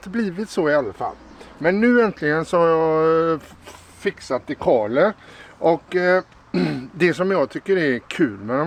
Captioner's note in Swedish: harklar sig